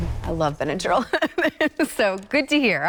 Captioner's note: laughing